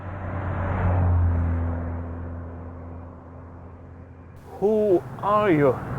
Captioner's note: opposing traffic rumbles